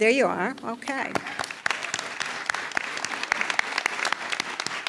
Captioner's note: audience applauds